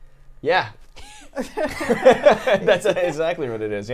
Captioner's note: laughs